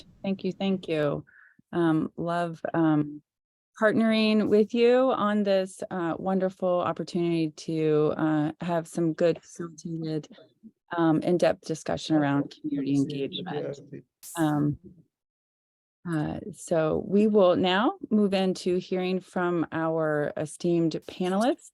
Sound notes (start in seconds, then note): 14.2 interference feedback